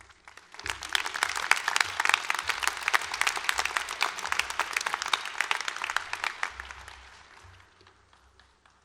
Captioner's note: applause